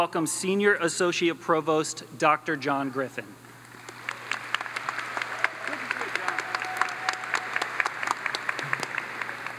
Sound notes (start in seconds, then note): 3.7 audience applauds